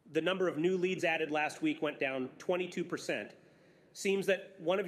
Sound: none

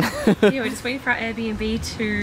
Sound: chuckles

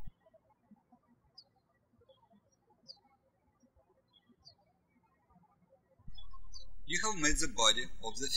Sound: birds chirping

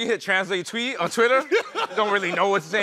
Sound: laughter

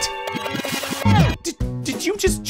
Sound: VCR rewinding

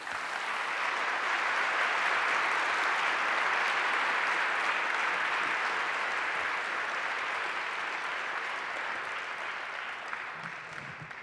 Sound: applause

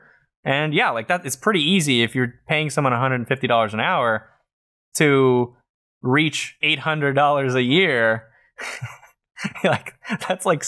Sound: chuckles

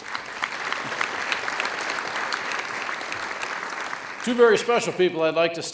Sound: audience applauds

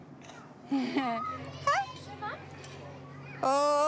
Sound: chuckles

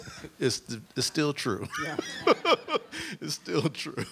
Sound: laughs

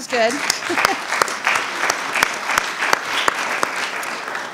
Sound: audience applauding

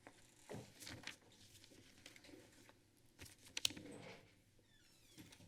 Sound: flipping pages

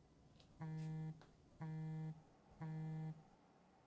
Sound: phone Vibrating

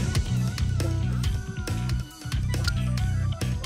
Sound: groans

